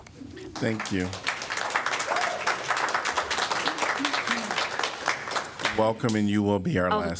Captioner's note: applause